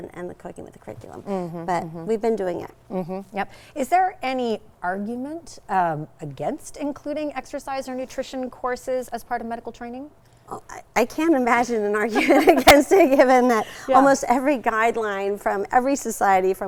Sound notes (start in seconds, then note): 12.1 both laughing